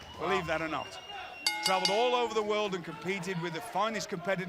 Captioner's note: bell ringing